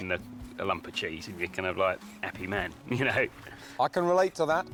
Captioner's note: chuckles